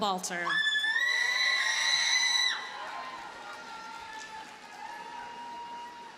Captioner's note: audience cheers and applauds